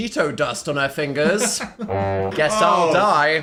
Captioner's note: laughing